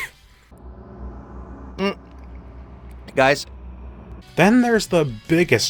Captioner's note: gulp